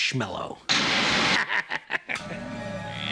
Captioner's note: laughs